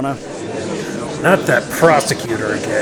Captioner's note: gallery chattering